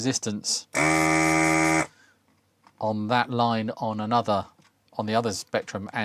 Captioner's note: buzzer Buzzing